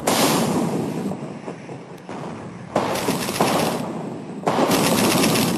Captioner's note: artillery blasting